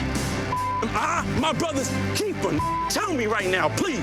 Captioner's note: beep; beep